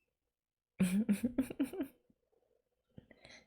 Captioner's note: laughs